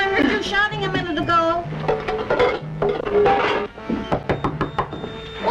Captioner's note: pots Clinking